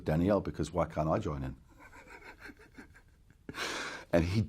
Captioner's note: giggles